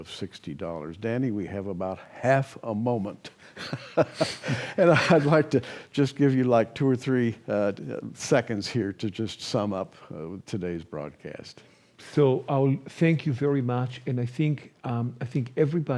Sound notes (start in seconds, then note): 3.6 laughs